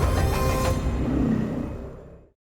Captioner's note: wolf growling